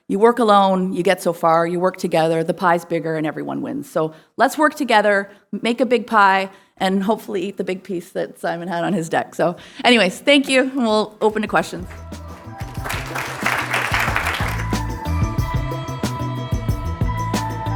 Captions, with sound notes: You work alone, you get so far. You work together, the pie's bigger and everyone wins. So let's work together, make a big pie, and hopefully eat the big piece that Simon had on his deck. So anyways, thank you. We'll open to questions. (audience applauding) (upbeat music)